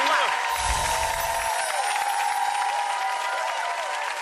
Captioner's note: audience cheers